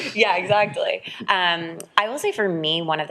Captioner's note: people laughing